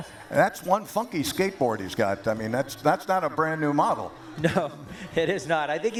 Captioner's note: laughter